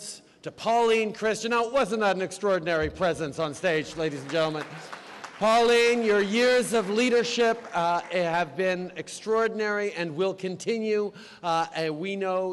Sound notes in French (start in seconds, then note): 3.3 Applaudissements